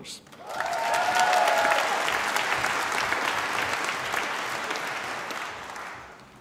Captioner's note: applause